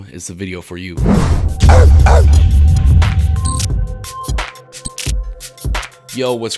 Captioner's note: mysterious sound and dog barking